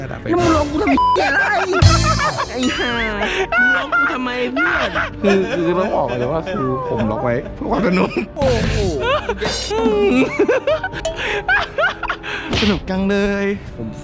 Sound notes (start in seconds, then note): 1.9 laughs maniacally; 3.5 laughs maniacally continues; 10.2 laughs; 11.4 laughs maniacally